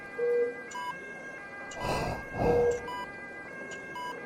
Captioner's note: sound of ambulances continues